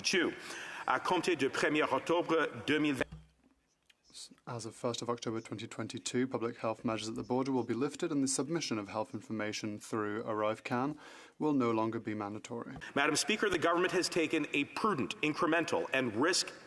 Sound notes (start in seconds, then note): 5.2 speaking French